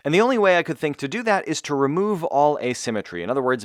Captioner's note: none